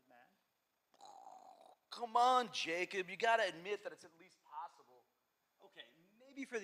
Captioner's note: makes explosion sound effect